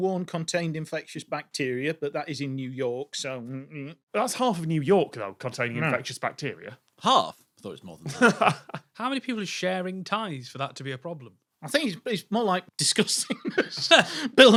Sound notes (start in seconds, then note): 8.0 chuckles; 13.1 laughs